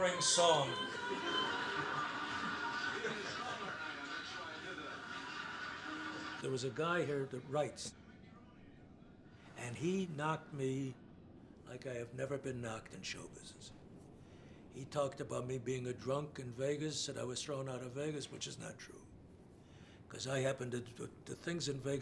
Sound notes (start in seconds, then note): 1.3 man on TV chatting